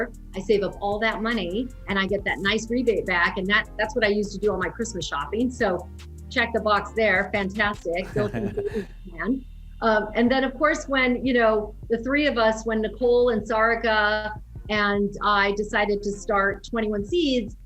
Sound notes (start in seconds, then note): 8.0 chuckling